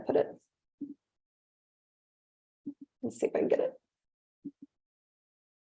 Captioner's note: none